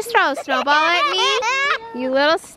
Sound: laughing

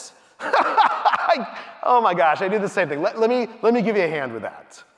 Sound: laughing loudly

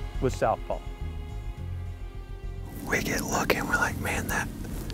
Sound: whispering

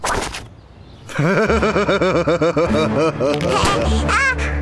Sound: laughs evilly

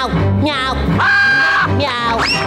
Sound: meowing; screaming; meowing

